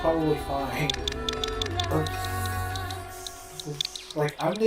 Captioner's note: sounds of intense guilt and pity